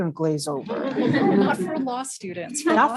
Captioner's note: laugh